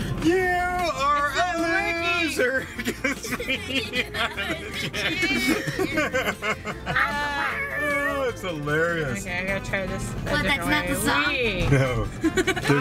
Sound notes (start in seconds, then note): 2.4 laughs